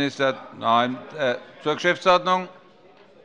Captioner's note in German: Zurufe von der SPD